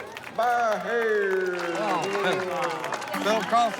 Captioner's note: clapping